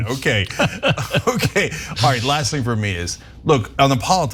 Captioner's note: laugh